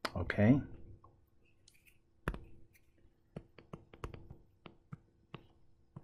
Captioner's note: tapping Sounds